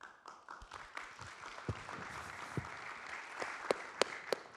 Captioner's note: audience claps